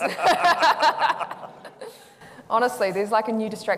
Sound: laughing

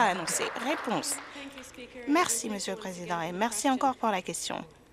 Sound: some Applause

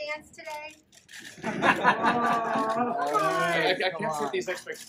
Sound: laughter, groans

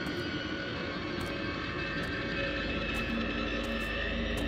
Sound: slow, cautious footsteps

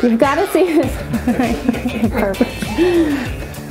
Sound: laughing

